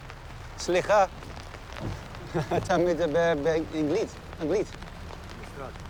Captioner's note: speaks hebrew